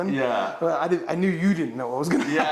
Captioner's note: laughs